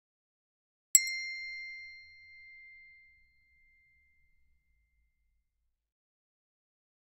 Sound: sound hand bell

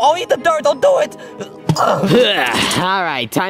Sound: groaning

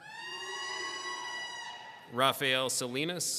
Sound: people cheering

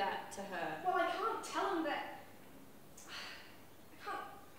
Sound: sighs

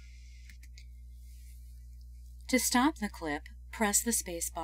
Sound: voiceover - female speaker

